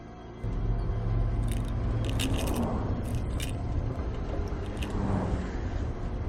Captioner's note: pills rattling